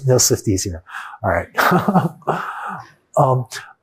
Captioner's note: chuckles